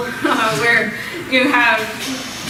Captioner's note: laughs